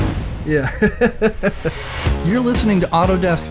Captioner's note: laughs